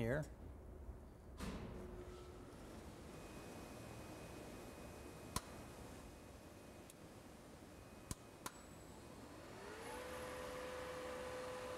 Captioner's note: drilling